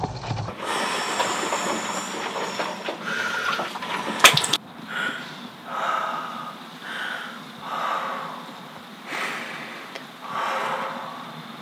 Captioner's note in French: profonde respiration